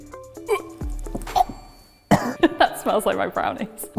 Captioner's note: retching